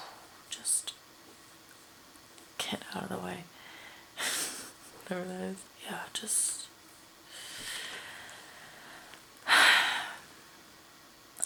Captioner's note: mimics explosion; laughs; sighs